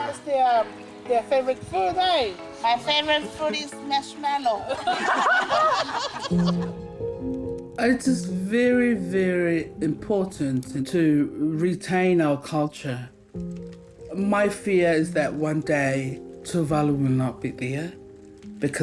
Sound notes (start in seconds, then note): 4.6 laughter; 7.1 calm music